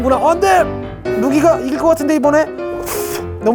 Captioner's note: breathing focused on the straw